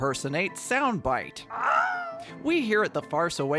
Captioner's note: bad imitation of the Wilhelm scream